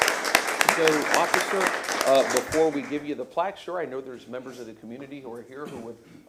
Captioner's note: applause